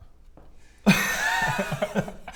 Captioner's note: giggles